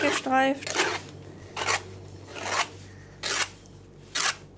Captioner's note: scraping, scratching noises